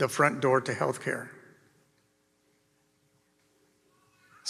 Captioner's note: none